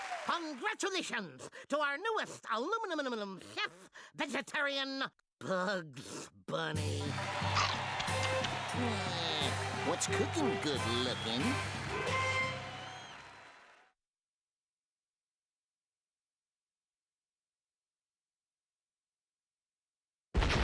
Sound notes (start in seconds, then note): 0.0 crowd cheering; 7.0 audience roaring